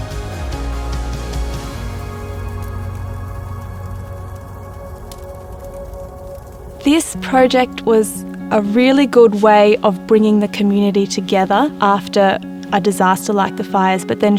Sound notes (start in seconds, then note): 0.1 uplifting music; 2.3 fire crackles